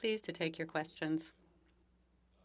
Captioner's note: speaking French